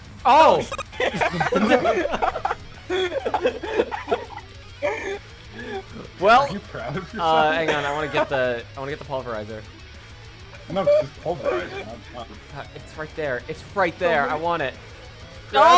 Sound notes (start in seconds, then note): 0.4 everybody laughing